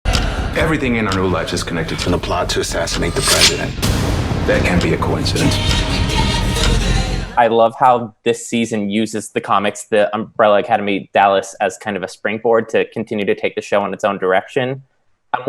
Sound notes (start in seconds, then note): 0.1 upbeat music; 4.2 dramatic sound; 5.8 upbeat music